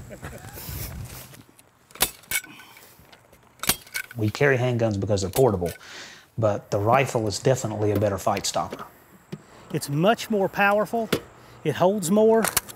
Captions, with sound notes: (laughing) (stapler clicking) We carry handguns 'cause they're portable, but the rifle is definitely a better fight stopper. It's much more powerful, it holds more.